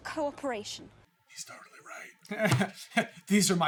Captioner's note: whispers